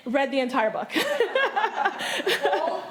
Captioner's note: all laughing